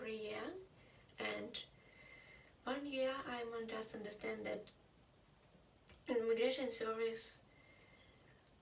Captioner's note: Russian